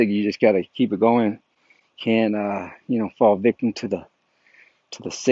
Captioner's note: none